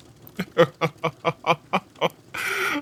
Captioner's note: Snape laughs heartily